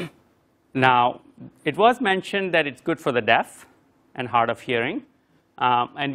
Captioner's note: cough